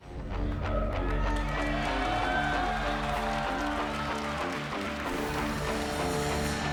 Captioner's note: rock music; crowd cheering